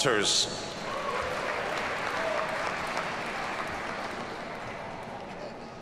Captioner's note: audience cheers and applauds